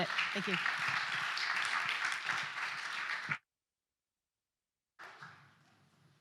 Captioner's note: applause